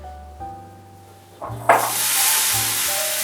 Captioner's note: burning Noise